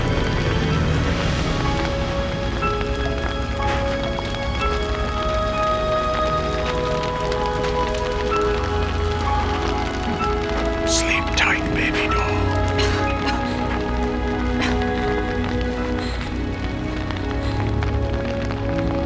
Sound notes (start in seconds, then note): 11.2 whispering; 13.1 coughs